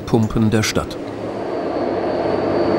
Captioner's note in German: Maschinenlärm